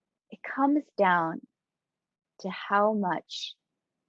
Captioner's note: none